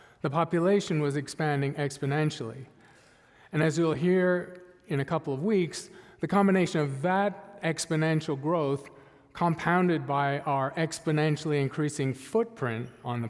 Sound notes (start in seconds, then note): none